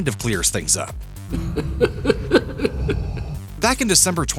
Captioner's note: Emperor's laughter